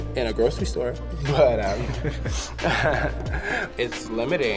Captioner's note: both laughing